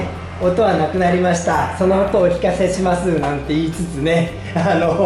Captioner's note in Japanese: エンジン音